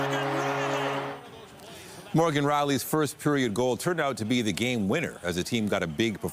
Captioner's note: applause